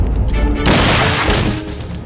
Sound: gunshot

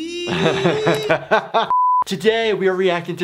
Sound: laughs

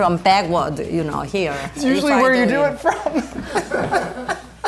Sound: wheeze

